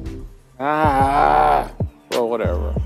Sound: grunts

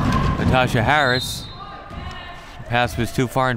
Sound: whistle

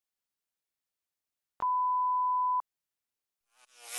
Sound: 440Hz test tone

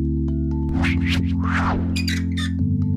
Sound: whoosh; squeaking

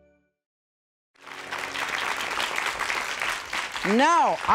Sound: joyful music; audience clapping

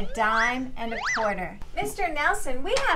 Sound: swoop sound

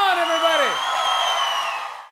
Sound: applause

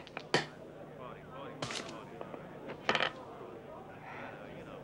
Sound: people chattering; dice rattling

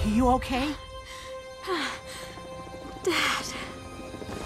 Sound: groaning

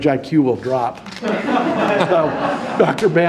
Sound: audience laughing

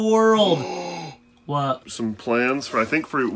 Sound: gasps

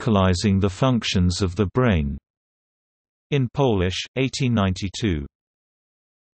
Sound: in Polish

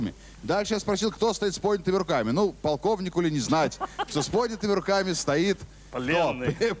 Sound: laugh

